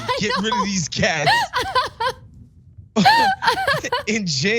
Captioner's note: laugh